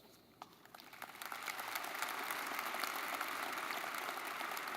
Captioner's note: audience clapping